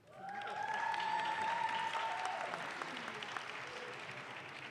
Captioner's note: audience claps